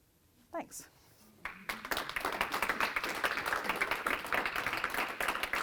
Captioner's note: audience applauding